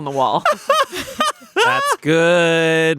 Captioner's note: laughing